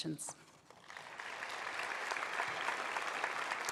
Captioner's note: applause